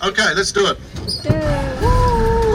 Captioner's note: laughing